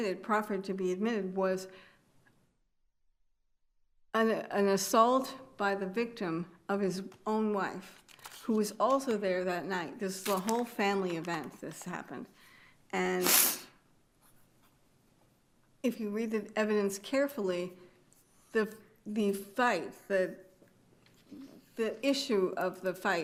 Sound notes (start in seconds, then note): 13.2 attendee sniffles